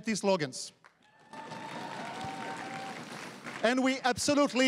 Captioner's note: crowd cheering and applauding